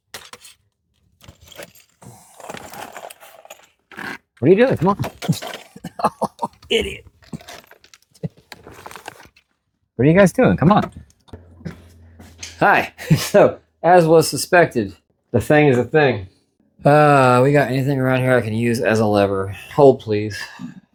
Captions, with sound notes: what are you doing come on [chuckles in pained disbelief] idiot what are you guys doing come on hi so as was suspected the thing is a thing uh we got anything around here I can use as a lever hold please